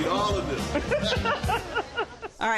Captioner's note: both laugh